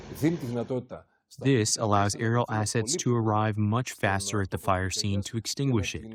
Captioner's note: through translator